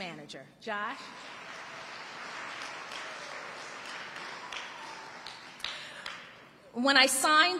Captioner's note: audience applauding and cheering